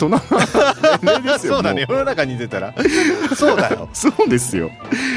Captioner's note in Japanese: 笑い